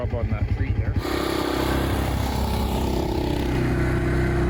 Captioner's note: ATV engine rumbling